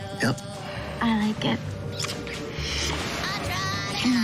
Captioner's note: sighs